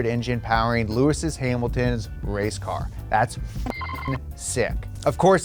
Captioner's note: beep